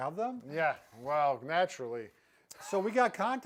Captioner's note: laughs